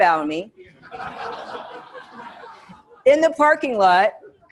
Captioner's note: students laughing